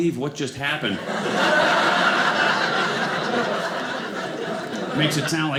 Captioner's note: audience laughing